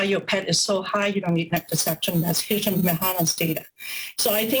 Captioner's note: murmurs